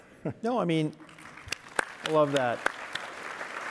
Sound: audience applauding

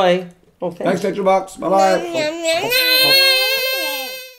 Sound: babbling

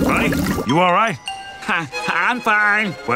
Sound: chuckles

